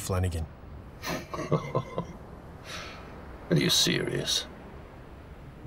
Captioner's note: laughs